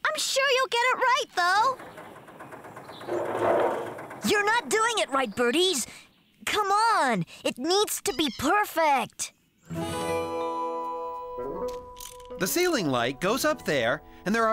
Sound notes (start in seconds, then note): none